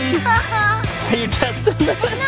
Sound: laughter

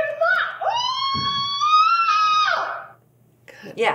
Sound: screams

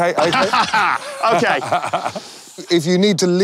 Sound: laughs

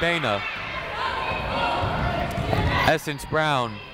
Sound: people shouting in the crowd

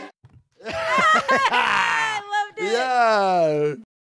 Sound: both laugh

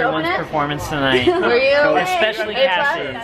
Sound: voiceover

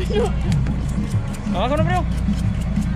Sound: speaking in spanish

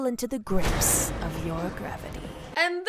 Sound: intense sound effect

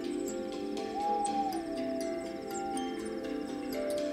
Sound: owl hoots

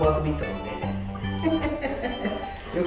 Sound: laughs

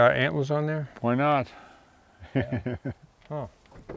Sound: chuckles

